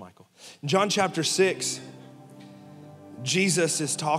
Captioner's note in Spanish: congregación riendo